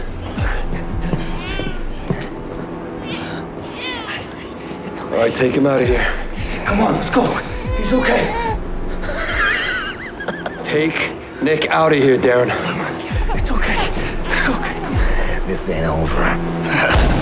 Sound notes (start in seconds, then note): 8.7 laughs; 16.2 laughs